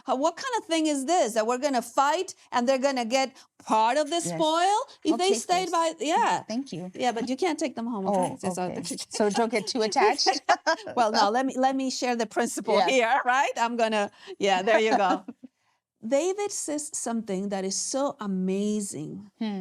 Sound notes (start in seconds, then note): 9.2 laughter